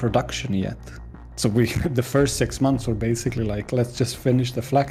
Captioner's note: laughs